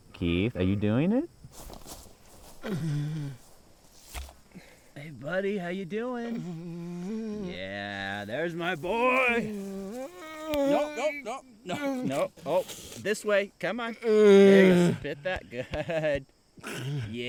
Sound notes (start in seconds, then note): 6.3 Keith groaning; 9.0 Keith groaning; 14.1 Keith grunting